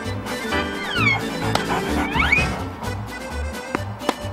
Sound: dog panting

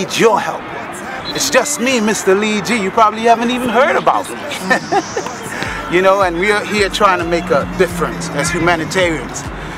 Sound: laugh

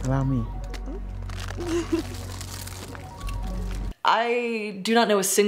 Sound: giggles

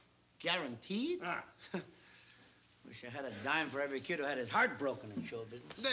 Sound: scoffs

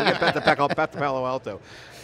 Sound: all laugh

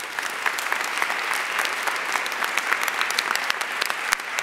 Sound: audience applauding

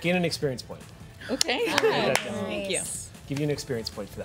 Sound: overlapping chatter

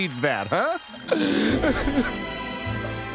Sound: crying

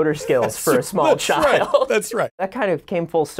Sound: laughing

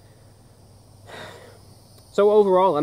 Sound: sighs

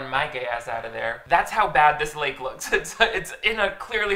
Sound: laughs

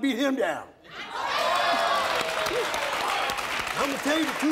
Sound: audience applauding

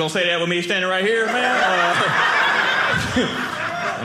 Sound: audience laughing

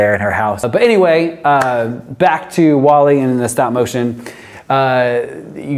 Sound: claps

